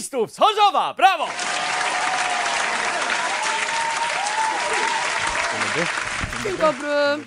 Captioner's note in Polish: aplauz publiczności prawdopodobnie odtworzony z urządzenia elektronicznego